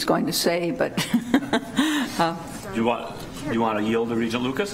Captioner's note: laughing